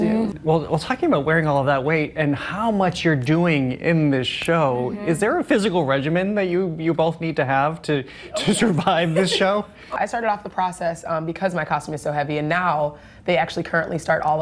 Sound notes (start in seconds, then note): 8.4 laughs